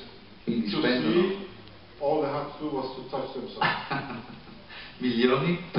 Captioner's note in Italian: Haha